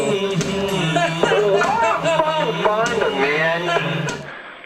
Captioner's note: laughter